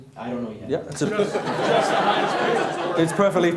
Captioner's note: laughing